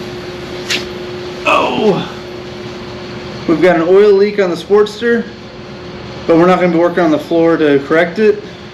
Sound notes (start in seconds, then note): 1.4 old man noises